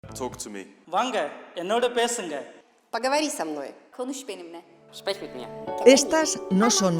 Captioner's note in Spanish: speak in different languages